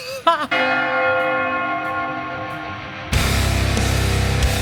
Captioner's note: bells chiming